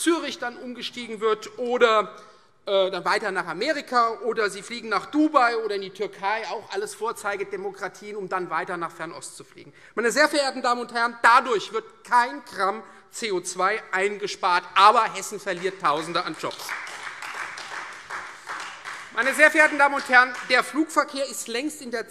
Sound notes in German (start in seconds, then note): 15.4 Beifall Freie Demokraten und vereinzelt AfD